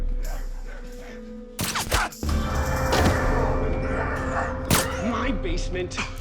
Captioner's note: soft shooting sound